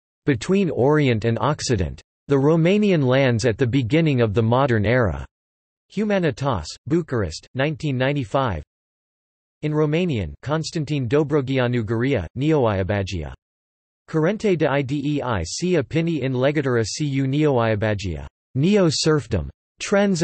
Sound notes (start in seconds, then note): 8.2 in Romanian